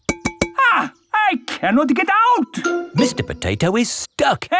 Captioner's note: knocking on window